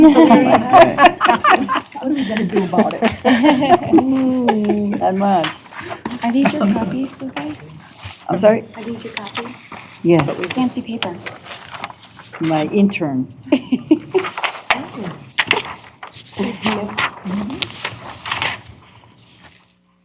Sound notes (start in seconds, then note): 3.6 laughter